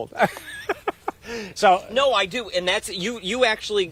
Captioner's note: laughter